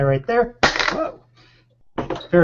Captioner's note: product crashes to floor